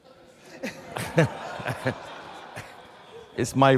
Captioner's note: audience laughs